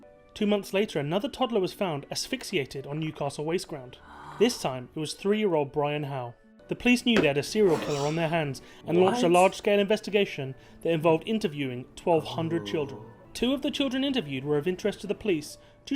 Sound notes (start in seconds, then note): 3.9 gasps; 4.4 voice-over; 9.9 voice-over; 13.2 voice-over